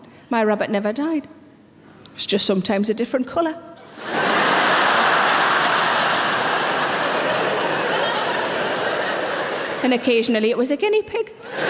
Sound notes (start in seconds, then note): 3.9 audience laughing